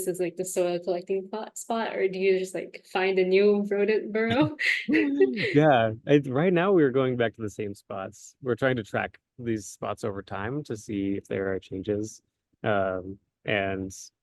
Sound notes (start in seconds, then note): 4.2 laughter